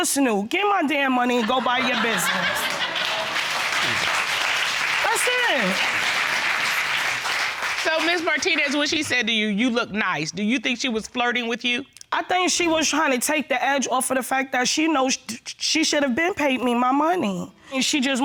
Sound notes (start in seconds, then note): 3.3 laughter